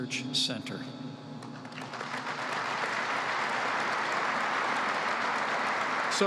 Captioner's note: applause